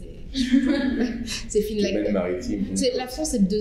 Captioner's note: speaking french